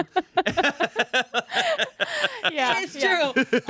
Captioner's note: everyone laughs